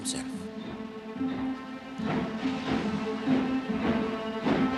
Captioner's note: kereta terengah-engah